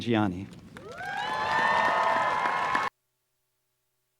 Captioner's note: applause